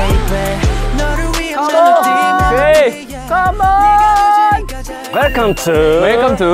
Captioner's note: shaking bridge